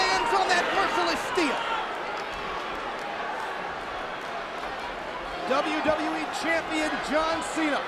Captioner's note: applause